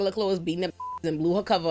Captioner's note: beep